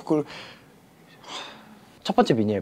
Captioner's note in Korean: 한숨